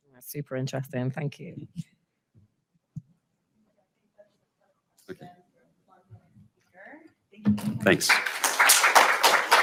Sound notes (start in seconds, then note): 6.0 woman speaking faintly; 7.8 audience applauds